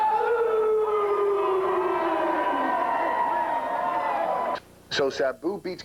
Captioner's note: crowd cheering